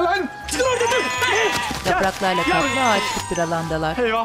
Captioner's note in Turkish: Telefon zili sesi